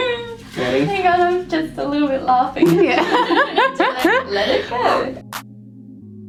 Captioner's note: laughing